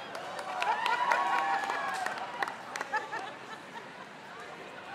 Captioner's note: crowd cheers